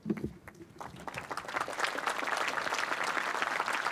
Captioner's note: applause